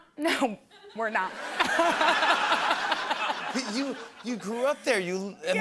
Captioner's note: laughter